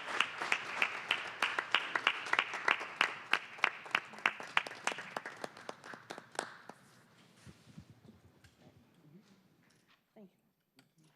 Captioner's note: applause